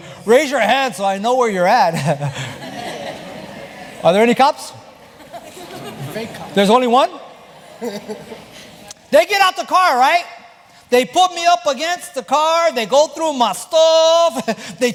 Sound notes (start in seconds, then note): 1.9 laugh